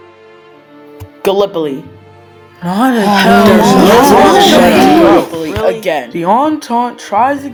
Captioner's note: they all moan